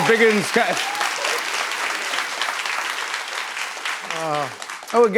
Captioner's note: cheers and applause